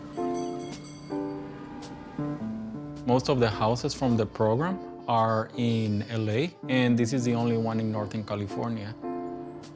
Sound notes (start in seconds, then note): 0.0 trolley bell rings; 1.4 car horn honks